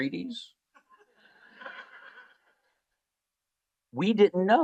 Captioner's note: laughter